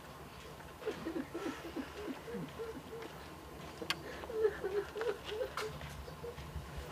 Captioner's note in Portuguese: soluços